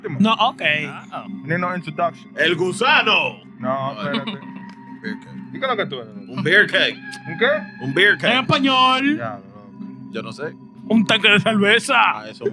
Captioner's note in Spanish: Hablando en español; Risas